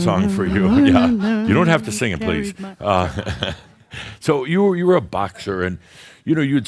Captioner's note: chuckles